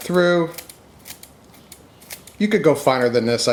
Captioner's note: scissors snipping